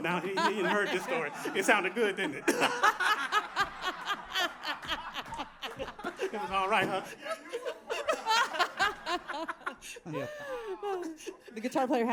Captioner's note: laughter